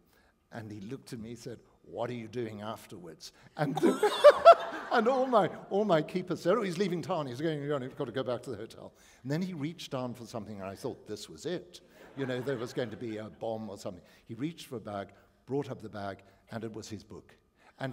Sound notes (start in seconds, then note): 3.7 laughter